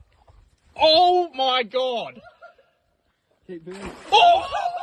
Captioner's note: water sloshing; people laughing